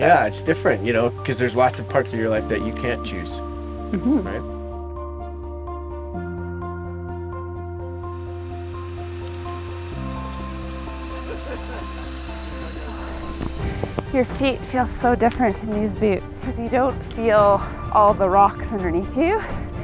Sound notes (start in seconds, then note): 5.5 contemplative music continues; 8.0 cooking sounds; 8.7 group laughing